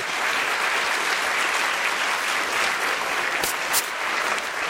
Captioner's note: applause